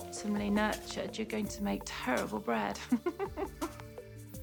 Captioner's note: laughing